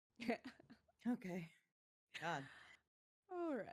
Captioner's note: chuckles